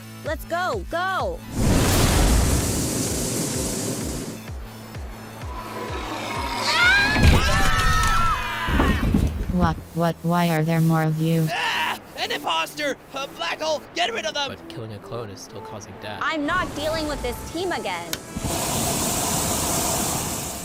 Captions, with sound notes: LET’S GO, GO! [SCREAMING] Wha–what–why are there more of you?! AHHH! AN IMPOSTER! BLACK HOLE, GET RID OF THEM! But…killing a clone is still causing death. I’M NOT DEALING WITH THIS TEAM AGAIN!